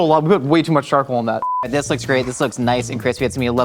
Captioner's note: high pitched beep